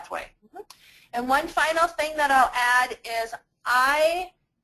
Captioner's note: voiceover